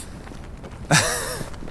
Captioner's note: nervous chuckle